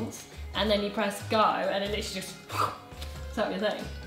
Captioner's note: whooshes